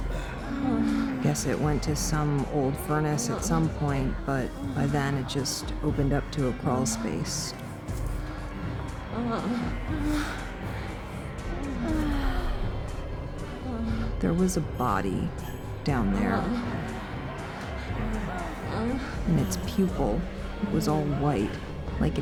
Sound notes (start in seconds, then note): 9.6 people moaning